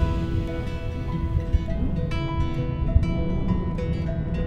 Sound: pleasant music; wind blowing

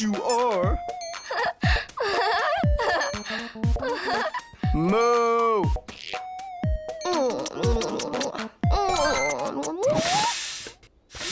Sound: smooching

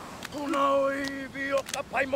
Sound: men chant, clap

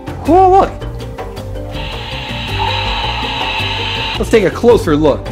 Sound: rushing water

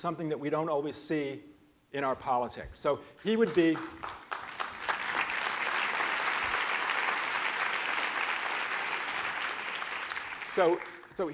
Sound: applause

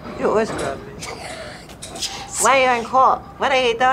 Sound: laughs

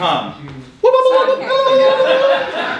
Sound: whooping; audience laughing

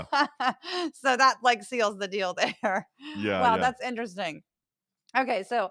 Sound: laugh; laugh

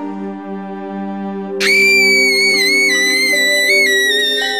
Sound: screams

